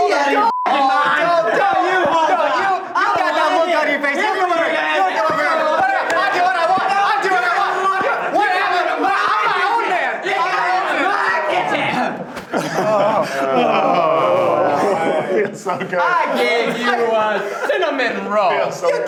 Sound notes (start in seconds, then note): 0.3 beeps; 2.9 both yelling over each other